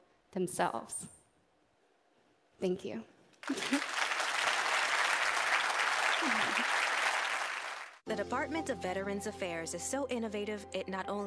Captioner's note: applause